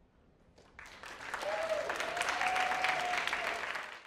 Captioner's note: audience clapping